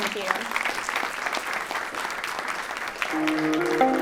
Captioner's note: applause